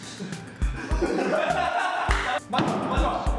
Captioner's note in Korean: 일동 폭소